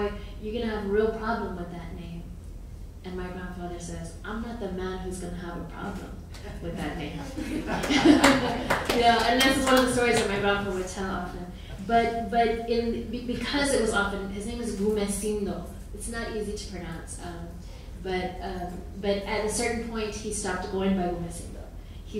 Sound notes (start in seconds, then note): 7.1 audience laughing; 7.8 audience clapping